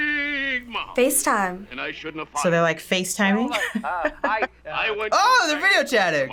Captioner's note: chuckles